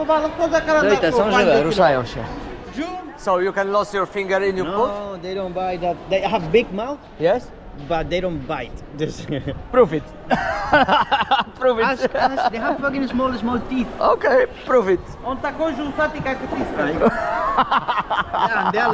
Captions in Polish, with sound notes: drugiej są żywe ruszają się [śmiech] ok